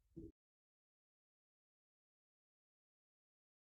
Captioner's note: silence